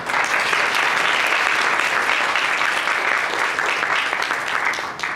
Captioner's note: audience applauds